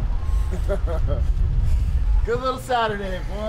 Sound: laughing

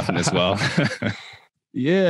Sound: all laughing

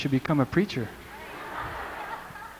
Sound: "Amens" and laughter

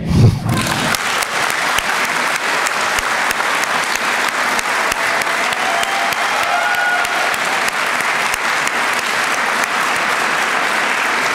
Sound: applause

